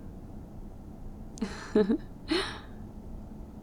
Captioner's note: laughs